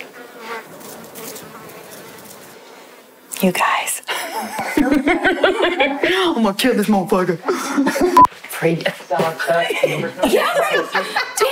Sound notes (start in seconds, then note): 0.4 buzzing; 4.0 laughing; 8.1 beep; 9.2 laughing